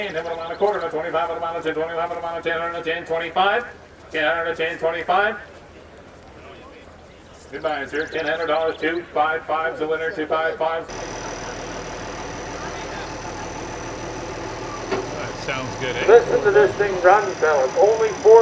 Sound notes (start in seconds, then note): 14.7 motor running